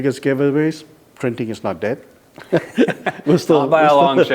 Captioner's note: laughs